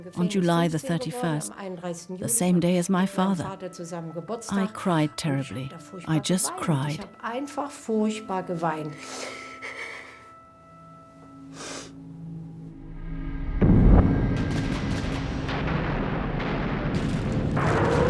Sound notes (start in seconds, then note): 8.9 sobs; 13.5 explosions roar; 13.6 guns fire